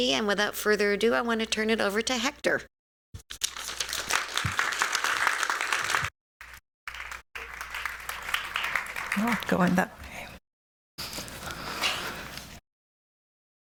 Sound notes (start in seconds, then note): 3.4 applause